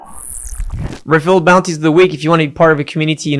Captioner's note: robotic sounds